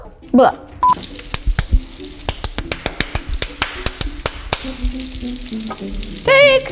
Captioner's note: food sizzling; clapping rhythmically